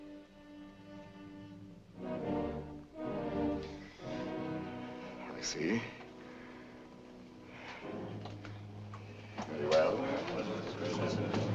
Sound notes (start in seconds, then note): 7.5 sigh; 9.4 murmurs